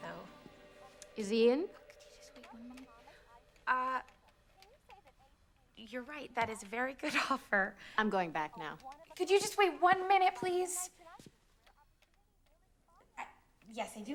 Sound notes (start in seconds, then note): 2.6 whispering